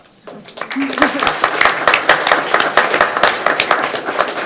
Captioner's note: crowd clapping